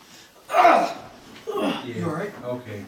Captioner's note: loudly grunting, gasping for air